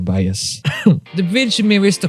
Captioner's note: coughs